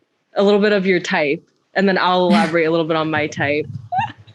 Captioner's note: laughs